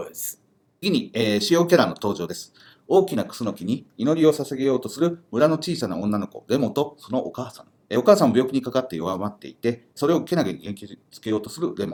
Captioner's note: speaking Japanese